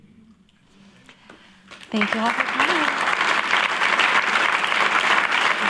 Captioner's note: applause